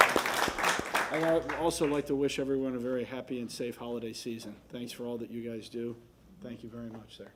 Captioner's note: applause